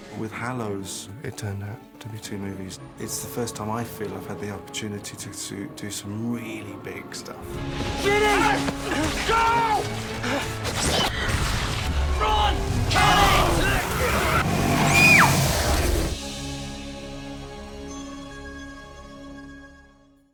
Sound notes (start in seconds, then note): 10.4 panting; 14.9 hermione screams